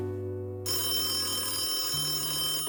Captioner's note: phone rings